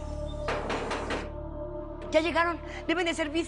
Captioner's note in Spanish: Toques en la puerta